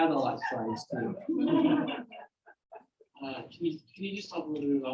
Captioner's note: audience members laughing